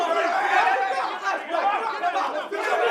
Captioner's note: crowd chatter